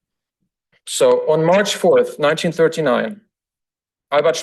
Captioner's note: foreign language